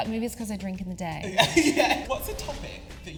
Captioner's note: laughing